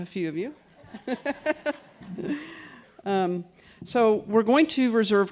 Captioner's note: laughs